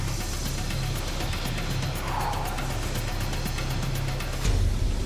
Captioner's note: exhales deeply